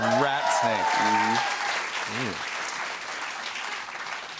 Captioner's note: cheers and applause